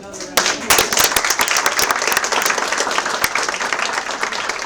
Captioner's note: applause